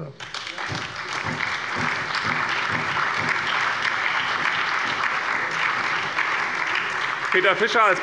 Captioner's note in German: Allgemeiner Beifall